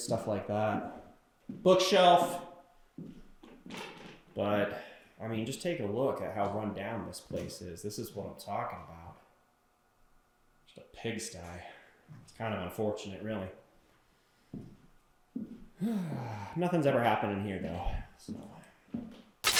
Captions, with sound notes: stuff like that, bookshelf. But I mean, just take a look at how run down this place is. This is what I'm talking about, just a pigsty. It's kind of unfortunate really. (sighs) Nothing's ever happened in here though so.